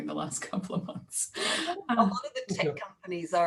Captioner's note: laughs